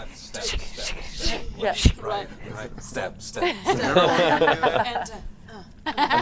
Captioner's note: laughter